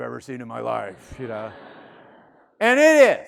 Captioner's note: student laughing